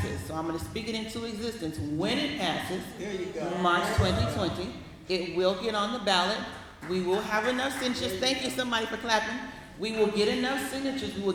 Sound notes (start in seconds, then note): 6.7 applause